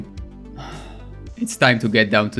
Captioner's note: sigh